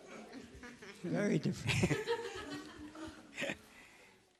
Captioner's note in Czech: smích